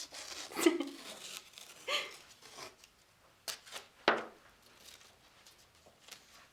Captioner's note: chuckles